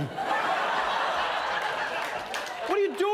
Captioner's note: laughter